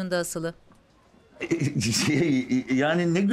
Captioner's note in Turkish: Geveleme sesi